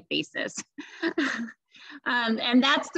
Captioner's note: laughter